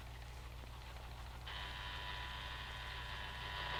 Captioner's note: alarm buzzing